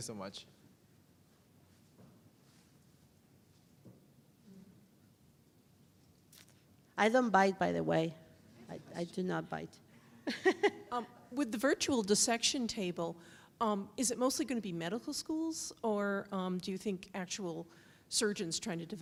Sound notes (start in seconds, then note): 10.2 chuckles